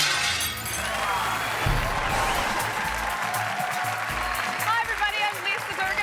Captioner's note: audience cheering